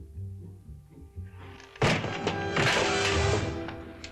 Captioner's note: bang